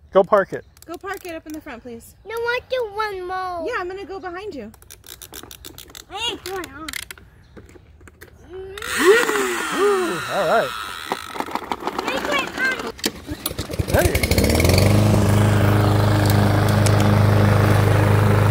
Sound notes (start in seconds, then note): 9.7 Play starts lawnmower; 13.9 lawnmower starts